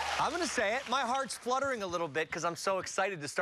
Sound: cheers and applause

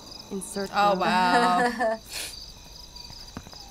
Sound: chuckles

